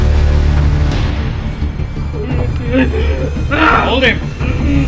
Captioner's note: crowd yells